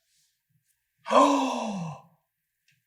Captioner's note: gaaaaaaaaaaaasp